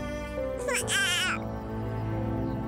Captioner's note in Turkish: Bebek ağlıyor